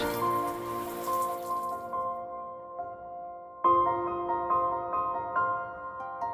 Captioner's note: water whooshing; soft bright music